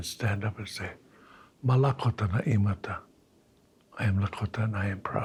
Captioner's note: speaking in Lakota